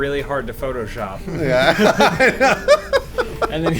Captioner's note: laughing